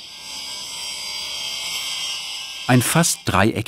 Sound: motor roar

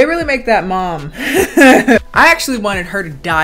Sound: giggles

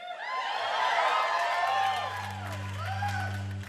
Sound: crowd cheering

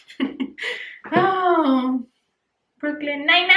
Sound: laughs; sighs

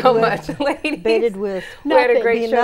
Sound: laughing

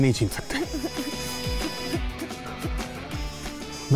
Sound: girl crying

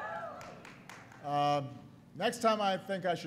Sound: applause

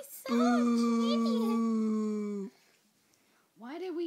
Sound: booing continues

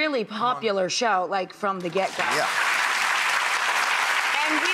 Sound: applause

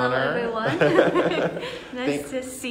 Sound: laugh

